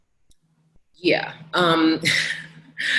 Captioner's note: laughs